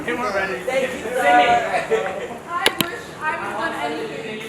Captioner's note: people chattering